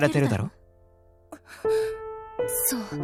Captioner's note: gasp